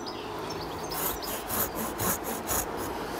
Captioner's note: sawing noises